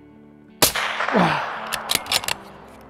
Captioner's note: old man noise